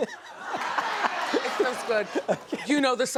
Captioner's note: laughs